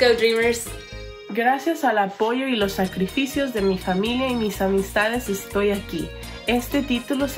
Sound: speaks in foreign language

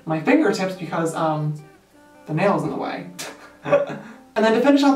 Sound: laughs

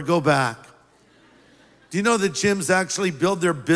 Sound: laughter

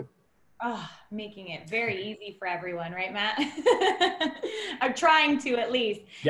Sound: laughter

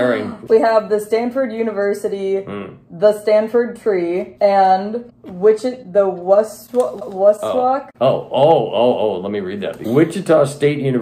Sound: stuttering

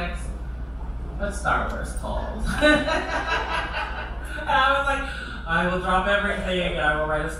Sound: laughter

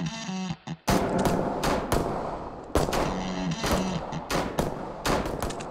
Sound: shooting

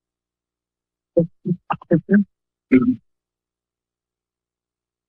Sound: silence; background chatter; silence

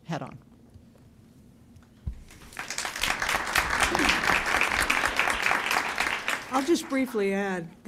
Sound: applause

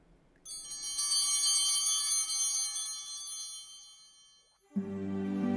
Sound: chimes ringing

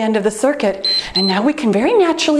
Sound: timer beeps

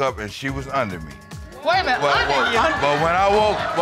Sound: audience gasps

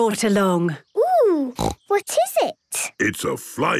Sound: snorting

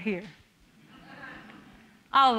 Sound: audience laughing

